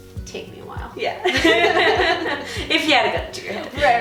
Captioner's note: laughing